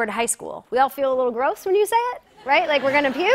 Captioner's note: laughter